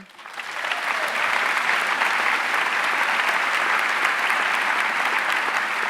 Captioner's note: audience cheering and applauding